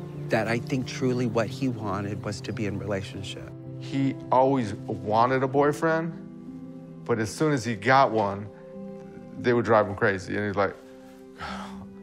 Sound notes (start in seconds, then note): 11.3 sighs